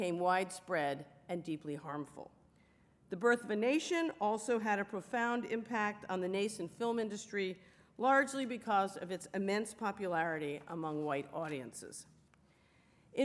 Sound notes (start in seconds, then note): none